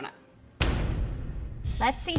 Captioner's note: loud bang